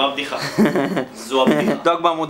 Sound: giggles

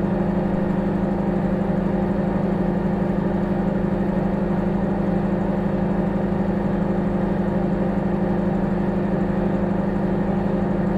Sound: microwave humming

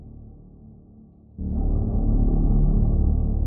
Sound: none

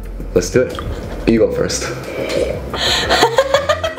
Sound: takes loud sip; laughing

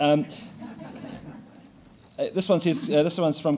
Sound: audience laughing

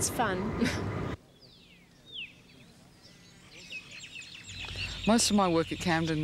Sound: chuckles; birds chirping

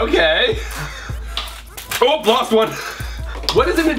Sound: laughing

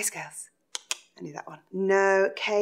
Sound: clicks tongue

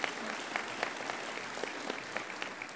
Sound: applause

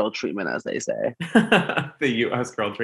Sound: laughs

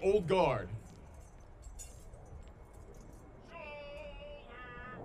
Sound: soldiers shouting commands

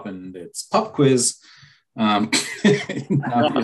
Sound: laughter

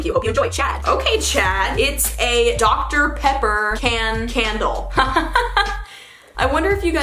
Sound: laughs

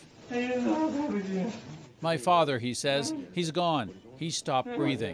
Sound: speaking foreign language

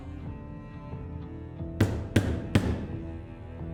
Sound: knocking on the door; tense and suspenseful music

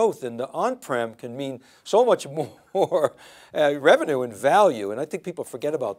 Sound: laughs

